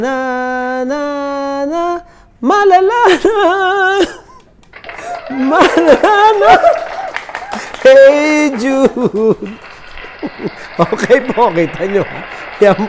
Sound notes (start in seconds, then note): 0.0 sings; 1.9 laughs; 4.8 offscreen applause; 4.9 offscreen applause, whoops; 4.9 gasp; 4.9 laughs, sings; 5.2 sings, laughs; 8.1 canned applause; 9.0 chuckle; 11.9 canned laughter